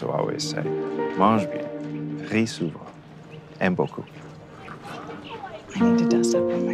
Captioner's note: foreign language